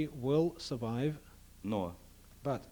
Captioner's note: non-english speech